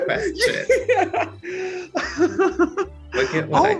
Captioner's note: laughs